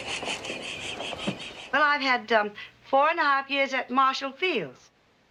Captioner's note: hysterical laughing